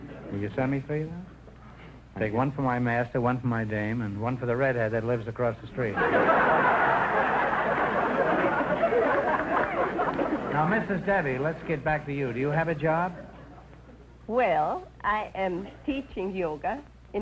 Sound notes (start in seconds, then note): 5.9 audience laughter